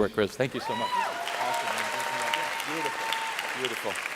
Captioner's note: applause